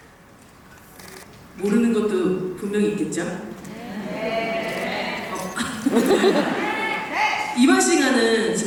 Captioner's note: embarrassed, laughing